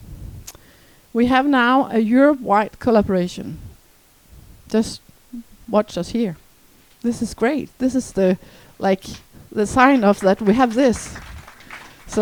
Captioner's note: applause